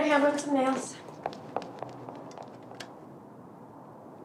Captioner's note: scoffs